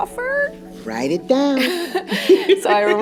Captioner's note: laughs